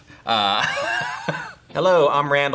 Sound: laughs

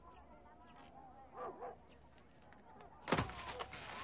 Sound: dog barking; door opening

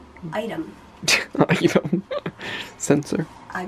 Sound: laughing

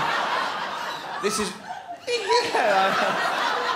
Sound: high pitched laugh

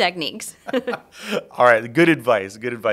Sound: both laugh

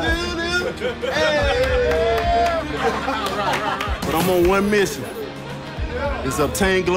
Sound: laughter

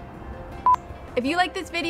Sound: beep

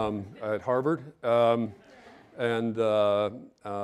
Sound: audience laughing

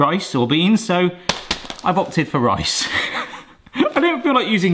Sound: laughs

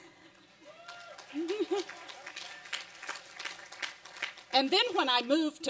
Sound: applause and cheering

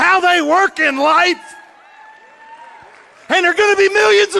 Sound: audience cheering and clapping

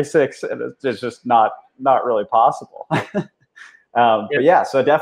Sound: laughs

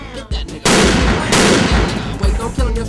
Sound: gun fires twice

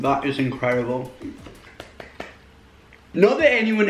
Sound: claps

